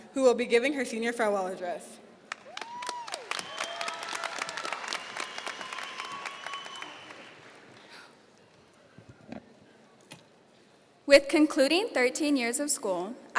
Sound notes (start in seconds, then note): 3.8 audience cheering and applauding